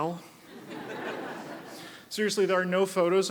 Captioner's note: audience laughs